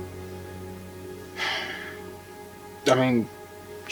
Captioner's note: sigh